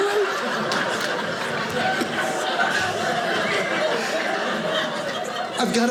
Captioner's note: audience laughing